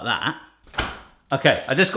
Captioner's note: fridge slamming